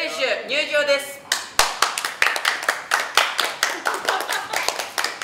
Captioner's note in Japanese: 拍手